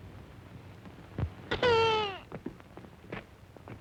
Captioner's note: baby crying